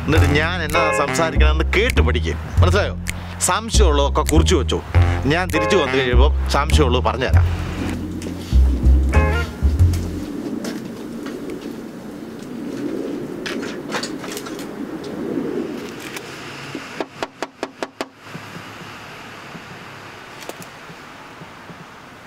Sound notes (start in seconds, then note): 17.0 knocks on door